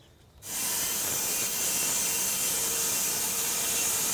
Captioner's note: saw whizzing